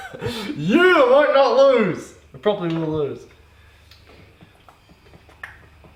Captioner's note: cheers; boy clicks